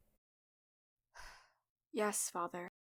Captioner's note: sighs